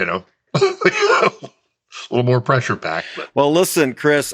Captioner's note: laughs